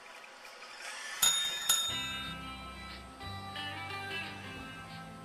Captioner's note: door chime ringing